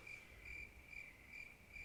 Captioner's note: crickets sfx